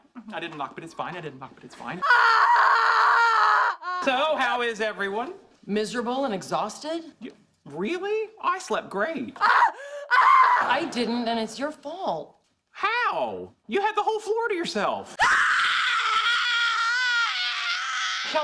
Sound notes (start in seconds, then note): 2.0 single scream; 10.1 short scream bursts